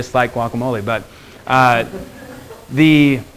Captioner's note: students laughing